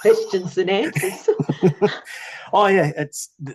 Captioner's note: both laugh